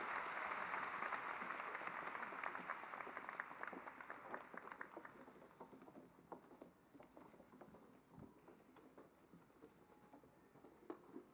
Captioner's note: cheering and applause